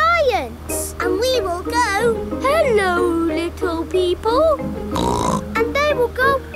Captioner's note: snorts